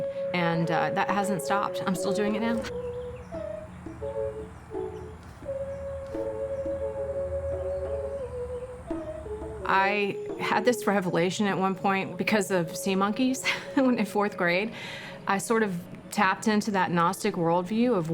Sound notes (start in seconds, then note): 3.6 bright ambient music continues; 13.4 chuckles